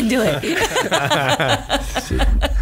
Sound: laughs

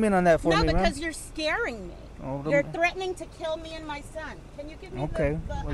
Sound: female speaking to unknown person

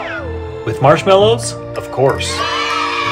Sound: cheering

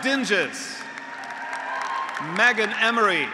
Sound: graduates applauding; graduates cheering

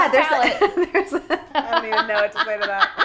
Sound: laughing

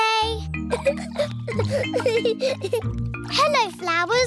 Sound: giggling

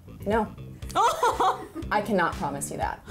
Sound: laughing

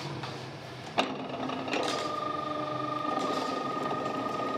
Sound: dull rattling machine noise

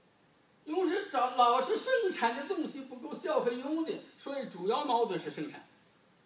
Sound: speaking foreign language

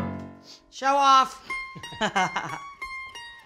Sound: laughs; upbeat folk music

